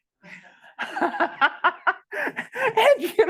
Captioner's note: laughs